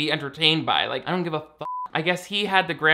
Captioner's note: beep